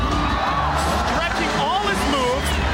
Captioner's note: crowd cheers